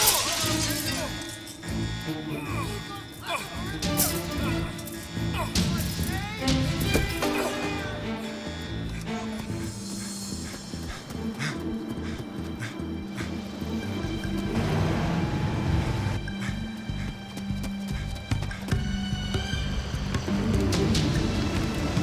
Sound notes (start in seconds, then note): 0.1 Rick grunting; 10.6 Rick breathing heavily; 14.7 trucks rumbling; 18.5 adventurous music